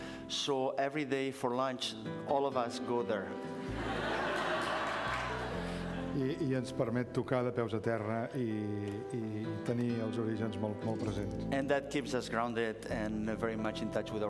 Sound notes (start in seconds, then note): 3.6 laughter; 8.2 speaking catalan